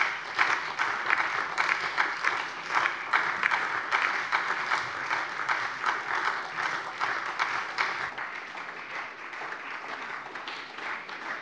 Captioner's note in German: Anhaltender Beifall SPD, Beifall DIE LINKE